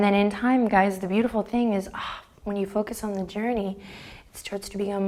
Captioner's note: sighs